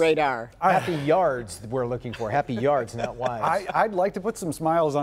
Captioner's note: laughter